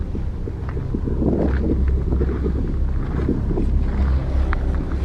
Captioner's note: wind